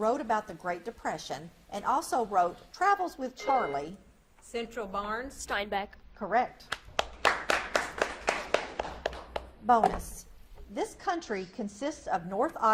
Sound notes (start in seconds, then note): 3.4 buzzer beeps; 6.7 audience claps